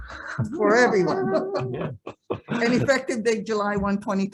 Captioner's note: group laughs